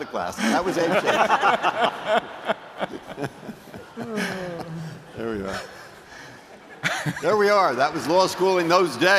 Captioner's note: laughter